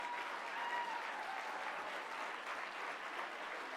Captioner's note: applause